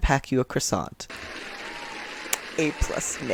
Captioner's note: clapping and cheering